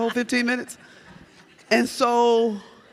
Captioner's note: audience laughs